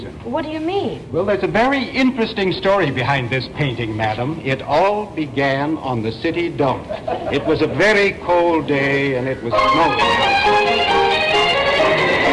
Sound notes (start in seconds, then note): 10.2 wind blowing